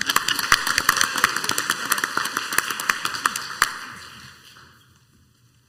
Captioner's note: laughing and clapping